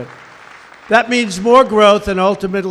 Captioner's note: applause